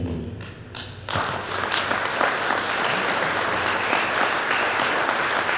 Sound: audience applauding

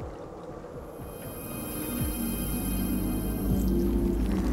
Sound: ethereal ringing

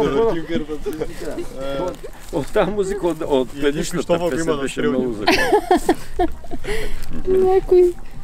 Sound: joyfully laughing

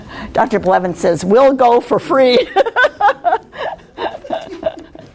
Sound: laughing

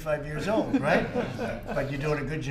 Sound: laughter

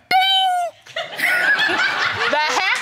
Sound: audience laughs

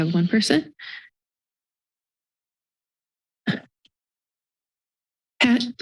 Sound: silence

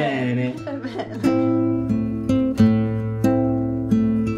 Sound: giggles; serene guitar music

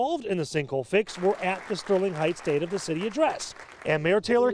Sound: applause

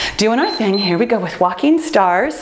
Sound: timer beeps

